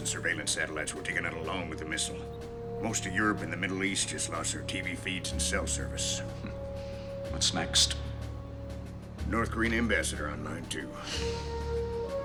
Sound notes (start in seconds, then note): 6.3 chuckles